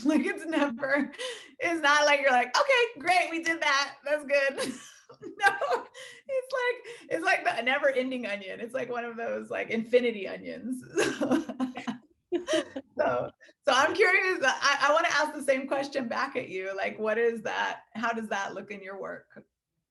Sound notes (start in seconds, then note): 4.5 laughing; 12.3 laughing